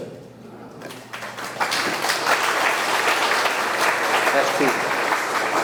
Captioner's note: audience clapping